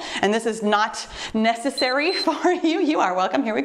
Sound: timer beeps

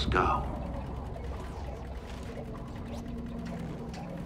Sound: water bubbling

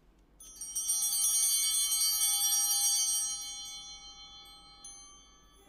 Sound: bell ringing

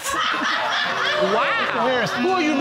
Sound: audience laughing

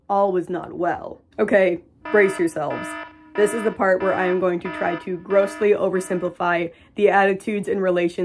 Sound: alarm blaring

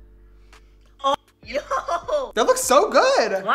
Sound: laughs

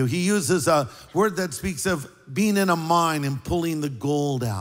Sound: none

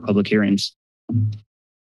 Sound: thump; silence

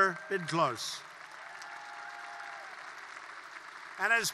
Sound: applause

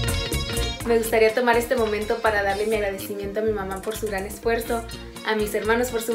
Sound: speaks in foreign language

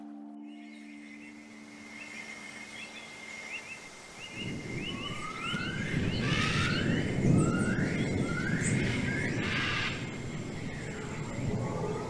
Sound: jungle atmosphere noises

